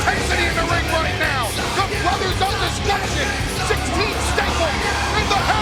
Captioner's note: presenter speaking faintly off mic